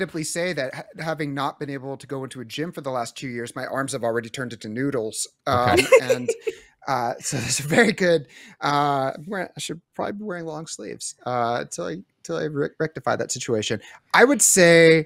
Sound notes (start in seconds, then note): 5.5 laughs